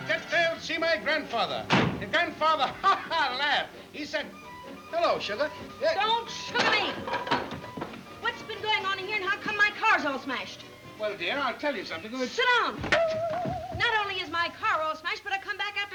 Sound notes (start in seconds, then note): 1.6 door thuds; 2.6 laughs